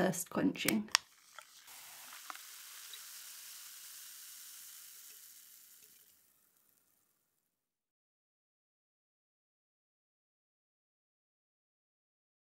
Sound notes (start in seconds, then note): 0.6 can cracking; 0.9 bubbles fizzing